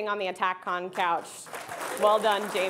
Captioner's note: audience clapping